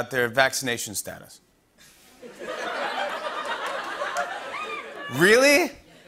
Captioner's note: laughter